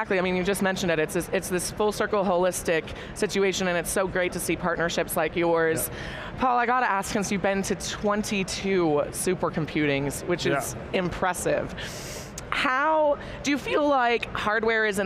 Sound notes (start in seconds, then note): 11.8 inhales deeply